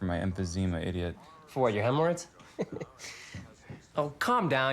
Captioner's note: chuckles